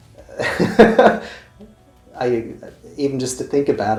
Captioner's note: laughing